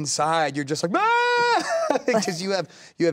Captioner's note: yells